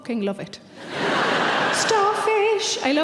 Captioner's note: laughing